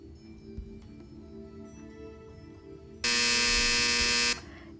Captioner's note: buzzer